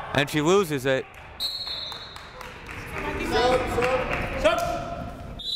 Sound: whistle blowing

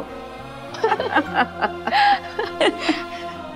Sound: laughing

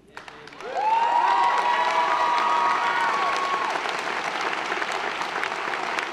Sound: audience applauding; audience cheering

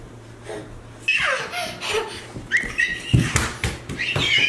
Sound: squeals

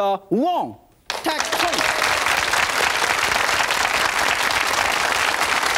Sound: audience clapping drowns out Yan

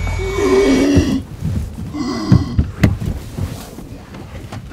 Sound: breathing heavily

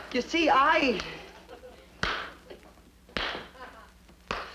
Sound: shoe taps

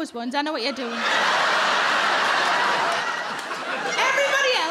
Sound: crowd laugh

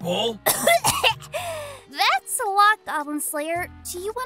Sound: cough cough

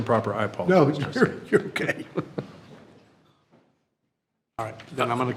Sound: trustees chuckling

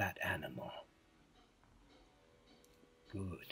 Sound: silence

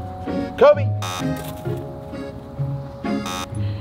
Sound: buzzer beeps; buzzer beeps

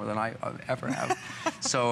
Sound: laughter

